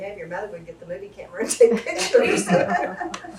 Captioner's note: laughter